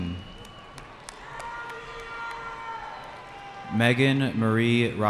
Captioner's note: cheering